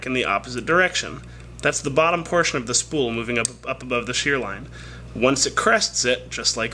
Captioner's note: click